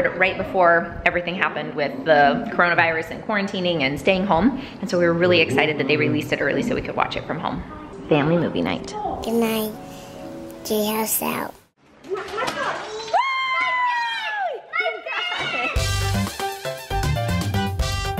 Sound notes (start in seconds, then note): 12.1 kids chatter; 13.0 cheers; 15.7 playful music